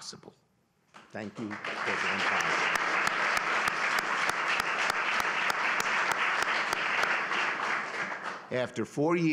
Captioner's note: applause